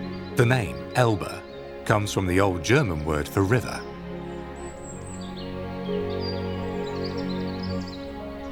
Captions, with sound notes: The name, Elbe, comes from the old German word for river. (birds singing)